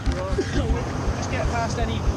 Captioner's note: rescuer coughs